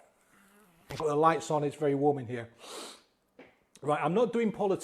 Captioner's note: sniffs